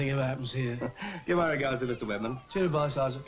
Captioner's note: chuckles